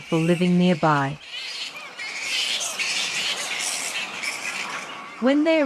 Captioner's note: bats screeching